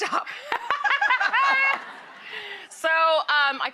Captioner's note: Rachael, Tiffany, and audience laughing